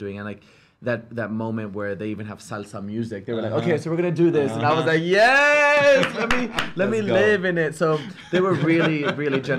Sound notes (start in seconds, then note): 5.7 laughs, claps; 7.9 laughs